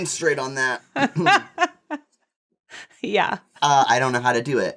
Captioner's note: laughs